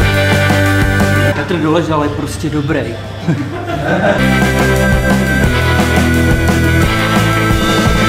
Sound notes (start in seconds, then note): 3.2 laugh